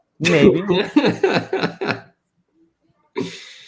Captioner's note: laughs